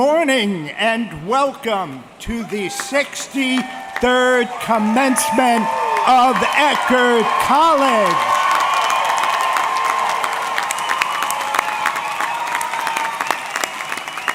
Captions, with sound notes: - Good morning and welcome to the 63rd commencement of Eckerd College. (audience cheering)